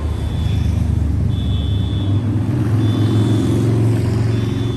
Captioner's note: cars honking